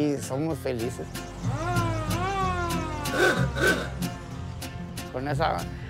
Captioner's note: horn honks